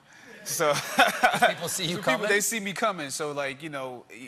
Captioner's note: laughter